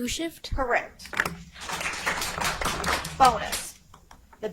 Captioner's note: audience applauds